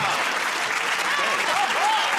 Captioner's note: applause